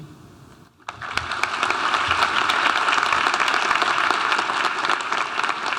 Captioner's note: audience applauding